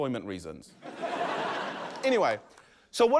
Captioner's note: laughter